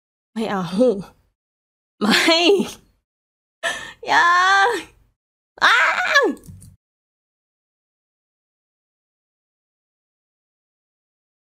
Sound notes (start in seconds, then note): 5.6 scream